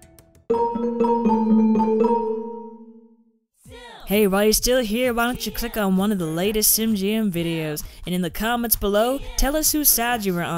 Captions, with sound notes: (playful music) - [Voiceover] Hey, while you're still here why don't you click on one of the latest Simgm videos? And in the comments below, tell us who's side you were on.